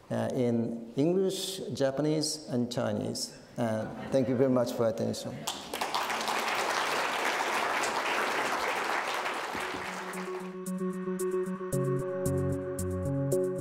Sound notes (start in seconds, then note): 5.4 audience applauding; 10.2 uptempo electronic music